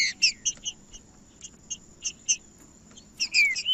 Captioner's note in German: trinca ferro cantando